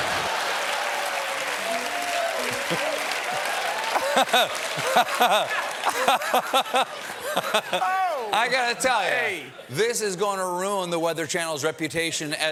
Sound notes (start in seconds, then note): 1.8 cheers and applause; 1.8 laughter